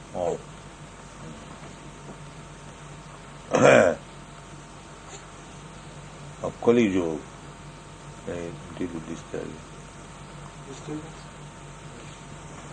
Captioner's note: baby fussing